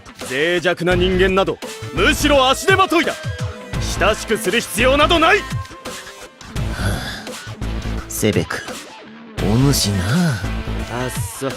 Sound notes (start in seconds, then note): 6.5 sighs